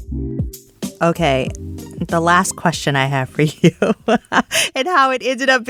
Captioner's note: laughs